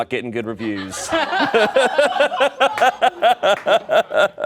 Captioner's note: everyone laughs